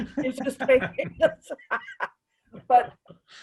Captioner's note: laughing